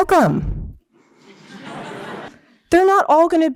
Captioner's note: laughter